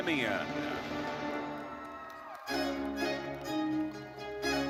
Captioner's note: audience cheering and applauding; orchestral music